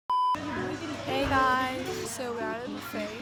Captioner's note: waves